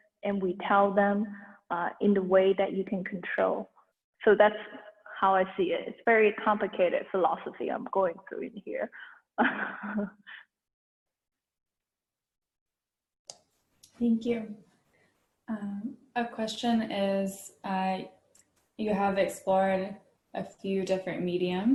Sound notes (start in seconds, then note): 9.4 chuckles